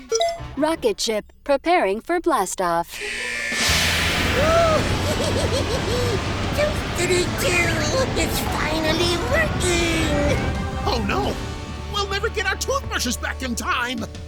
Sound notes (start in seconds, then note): 4.5 evil laugh